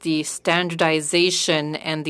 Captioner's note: speaking French